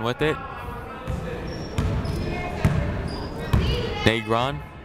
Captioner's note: people talking in the crowd